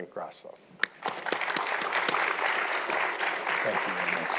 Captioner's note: audience applauding